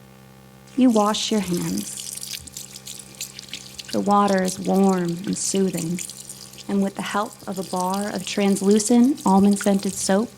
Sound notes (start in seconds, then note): 1.9 water running